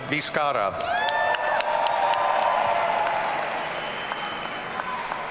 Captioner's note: audience cheering